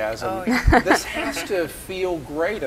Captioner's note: laughing